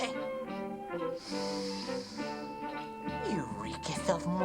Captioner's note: peasant sniffing